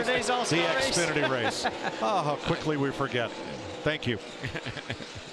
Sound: laughs

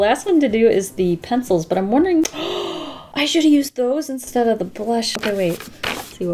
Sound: gasps

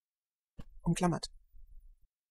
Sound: fast Pronunciation

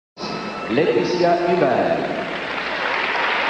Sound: cheering

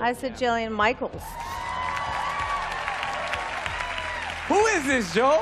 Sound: applause

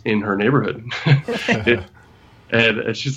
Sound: laughter

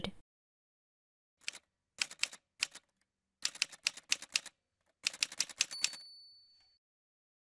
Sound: typewriter sounds

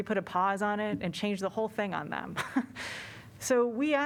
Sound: laughter

